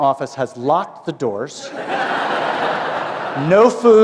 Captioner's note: laughter